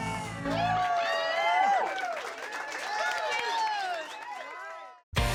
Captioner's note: cheers and applause